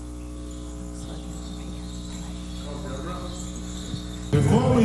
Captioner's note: participants chatting; beads clinking